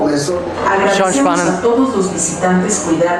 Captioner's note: loudspeaker announcement